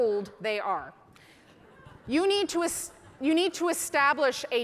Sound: audience laughing

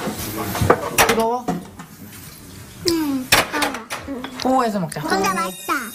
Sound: kitchenware shuffling noises in the background

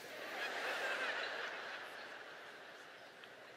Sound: laughter

